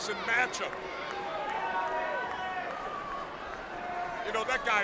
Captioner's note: crowd chatter